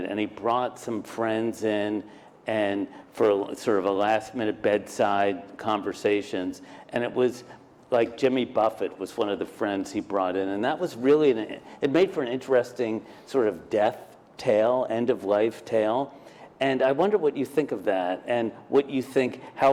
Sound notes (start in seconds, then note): none